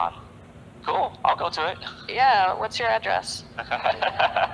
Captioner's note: laughter